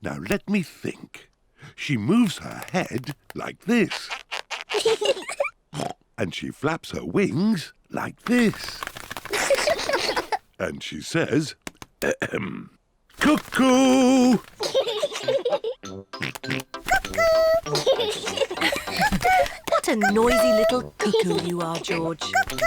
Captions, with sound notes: Now, let me think. She moves her head, like this. -(BOTH LAUGH) -(OINKS) And she flaps her wings like this. -(BOTH LAUGH) -And she says, ahem, -"Cuckoo!" -(BOTH LAUGH) -(OINKS) Cuckoo! -(BOTH LAUGH) What a noisy little cuckoo you are, George.